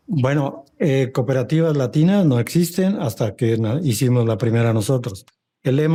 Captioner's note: speaking Spanish